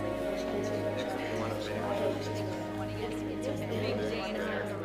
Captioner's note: group chattering